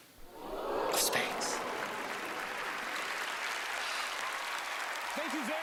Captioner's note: audience oohing and clapping